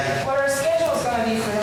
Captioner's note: speaking In Foreign Language